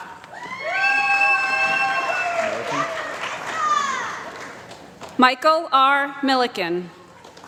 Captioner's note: applause